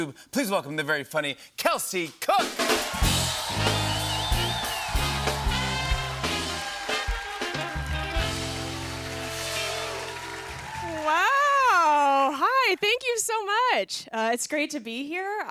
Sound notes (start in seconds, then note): 2.7 cheers and applause